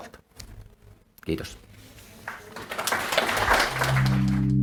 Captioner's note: Aplodeja